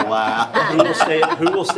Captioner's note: everyone laughs